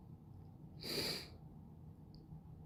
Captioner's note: sniffle